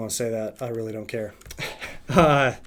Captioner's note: laughs